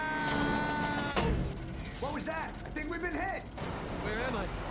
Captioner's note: loud clank